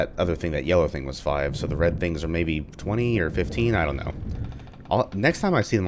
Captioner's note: thunder